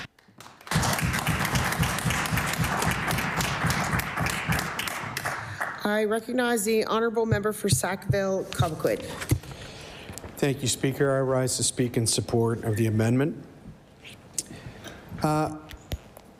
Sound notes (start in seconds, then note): 4.1 applause